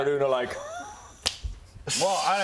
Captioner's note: snap